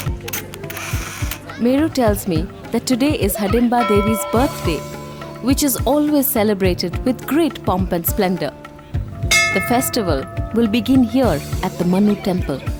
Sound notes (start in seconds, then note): 0.6 camera shutters; 3.8 bell chimes; 9.2 bell’s chimes